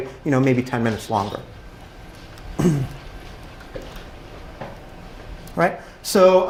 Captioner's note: cough